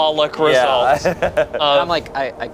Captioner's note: laughs